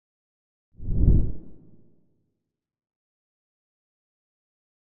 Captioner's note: logo whooshes